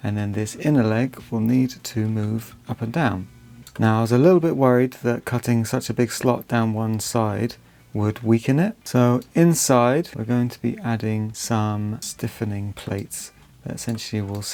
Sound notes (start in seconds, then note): none